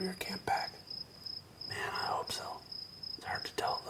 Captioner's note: whispering